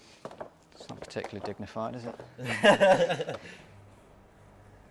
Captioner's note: laughter